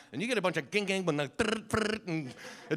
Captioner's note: making sound effects